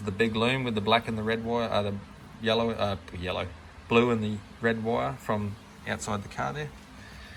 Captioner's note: ahh